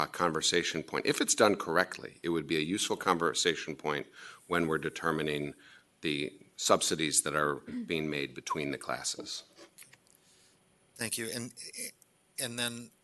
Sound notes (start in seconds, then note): 7.6 clears throat